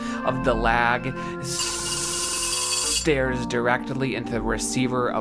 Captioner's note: metal buzzing